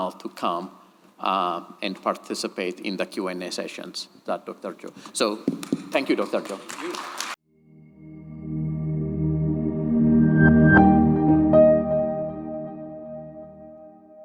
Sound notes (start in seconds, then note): 5.5 audience clapping; 7.8 light airy music